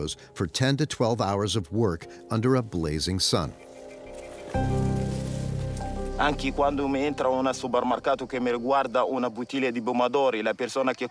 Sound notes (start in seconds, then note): 6.1 speaking in foreign language